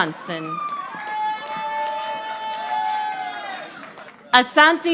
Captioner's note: audience applauding